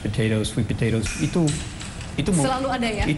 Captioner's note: non-english speech